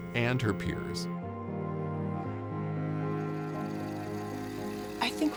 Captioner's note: pensive music; film whirring